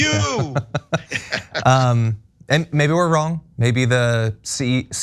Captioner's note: laugh